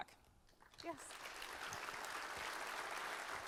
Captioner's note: applause